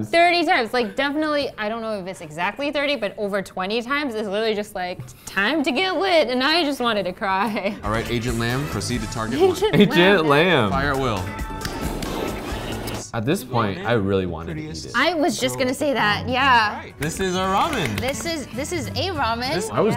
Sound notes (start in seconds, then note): 17.6 clapping